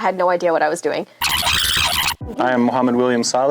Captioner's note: tape squealing